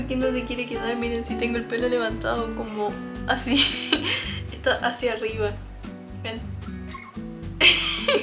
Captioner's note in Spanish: risas